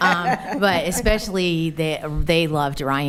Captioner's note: attendees laughing